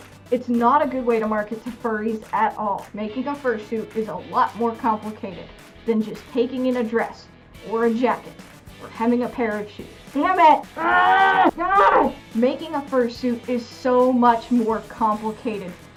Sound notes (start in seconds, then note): 10.7 angry coyote noises